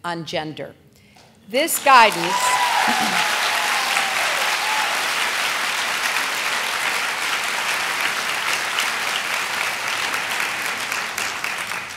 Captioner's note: applause